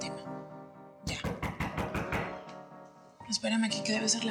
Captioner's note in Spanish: Toques en la puerta